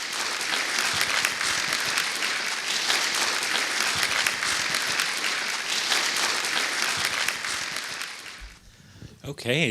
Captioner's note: applause